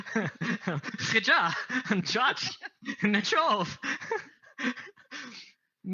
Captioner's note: laughing a little bit